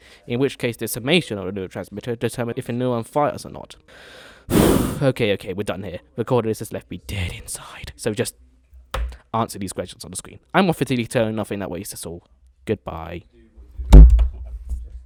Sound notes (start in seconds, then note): 4.0 very deep exhale; 8.9 desk slam; 13.9 thud